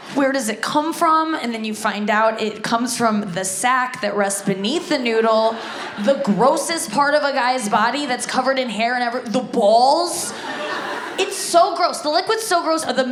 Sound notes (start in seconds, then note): 10.2 audience laughs